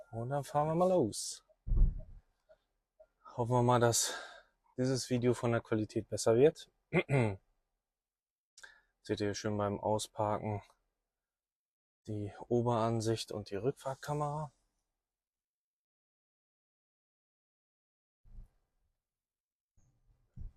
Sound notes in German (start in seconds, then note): 6.9 räuspern